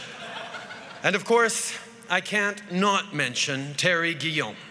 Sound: laughter

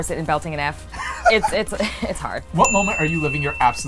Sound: ding

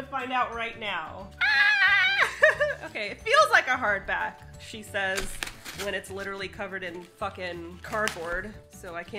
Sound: laughs

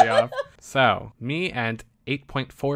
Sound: laughs

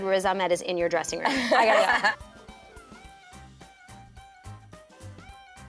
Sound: laughter

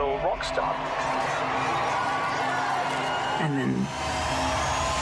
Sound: crowd cheers

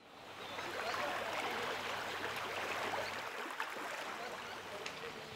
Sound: sound of running water

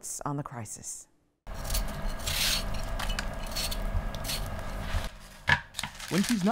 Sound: peeling vegetables

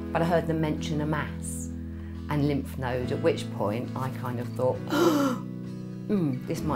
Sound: gasp

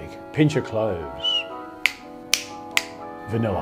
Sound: snapping fingers

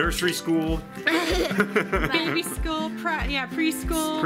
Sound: laughing

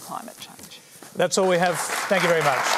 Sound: applause

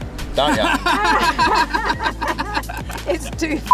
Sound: laughing loudly

